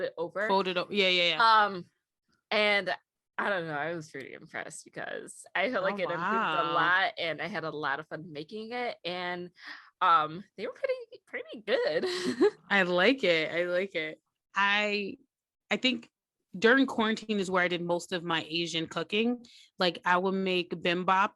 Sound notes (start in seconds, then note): 12.0 giggles